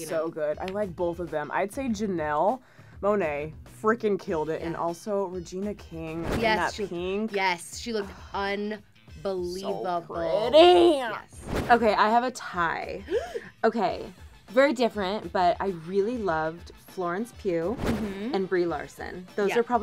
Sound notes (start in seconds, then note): 13.1 gasp